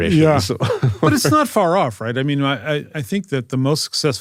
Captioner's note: laugh